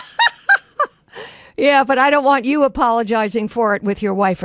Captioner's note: laughs